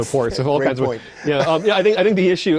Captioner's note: laughing